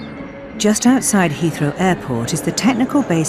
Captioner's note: voiceover